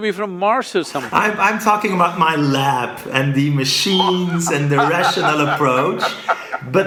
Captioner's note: Sadhguru laughs